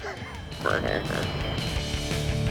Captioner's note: laughing